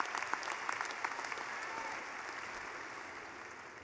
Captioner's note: clapping